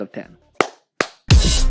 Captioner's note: claps